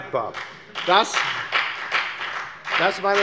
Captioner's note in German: Beifall bei der FDP